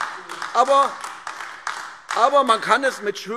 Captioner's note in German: Beifall AfD